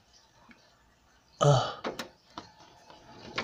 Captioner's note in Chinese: 呻吟:ㄜ~